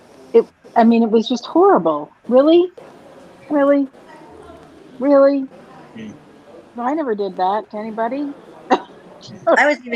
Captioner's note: laughs